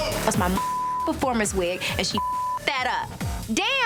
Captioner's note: beep